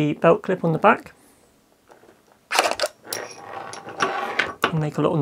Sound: a plethora of harsh scraping noises

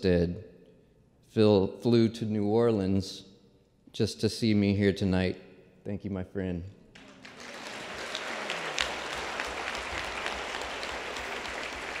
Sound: applause

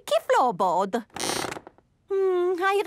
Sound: squeaks

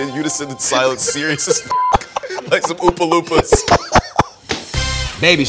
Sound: laugh; laugh

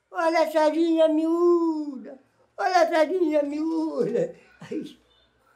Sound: vendor's cry

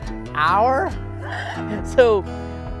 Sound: chuckles

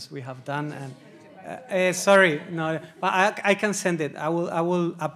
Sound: audience chattering

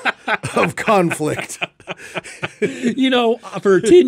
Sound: both laughing

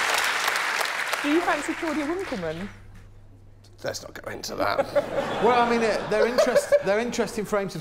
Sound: laughter

